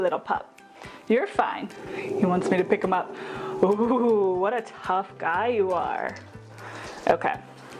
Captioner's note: growling